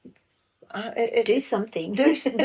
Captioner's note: laugh